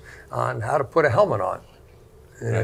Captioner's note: group laughing